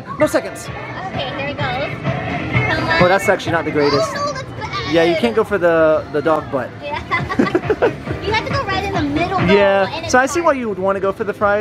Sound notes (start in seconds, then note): 7.0 laughing